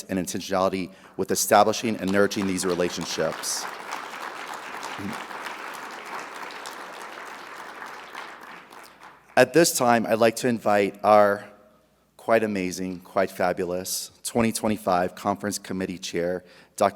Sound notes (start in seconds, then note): 4.0 audience applauding